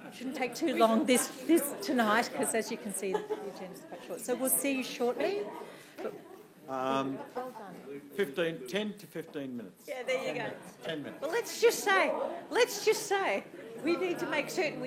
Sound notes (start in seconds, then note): 0.0 laughing; 7.5 general room chattering